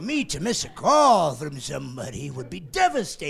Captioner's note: laughing